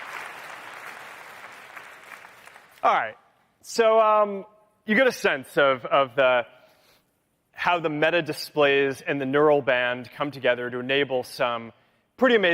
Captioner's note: cheering; applause